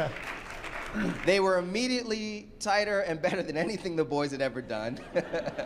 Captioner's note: laugher, applause; laughter